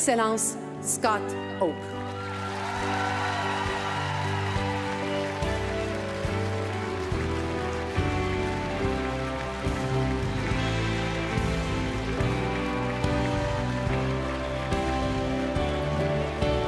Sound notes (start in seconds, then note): 6.1 applause